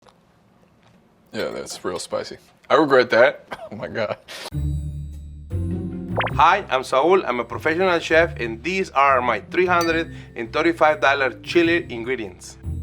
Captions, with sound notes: - Yeah, that's real spicy. I regret that. Oh my God. [laughs] [suspenseful music] - Hi, I'm Saul, I'm a professional chef and these are my $335 chili ingredients.